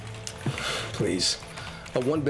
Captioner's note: scoff